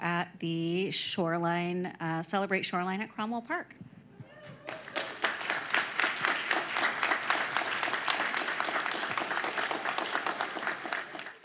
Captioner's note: applause